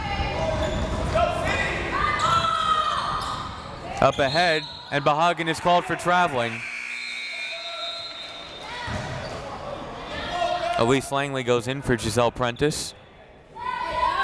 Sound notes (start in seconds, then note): 0.2 crowd members shouting; 6.0 buzzer ringing; 6.5 whistle tweeting; 13.6 crowd members shouting